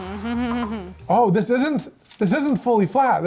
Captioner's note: laughs